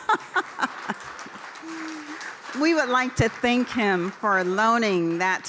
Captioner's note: laughter